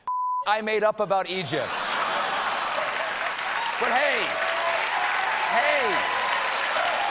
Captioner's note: audience booing